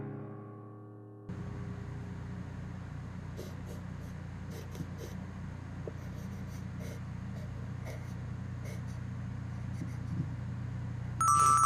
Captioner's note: pencil scritching